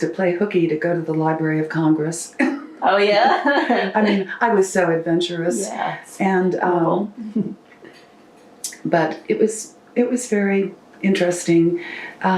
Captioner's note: laughter